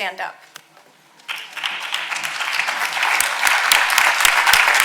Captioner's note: audience applauding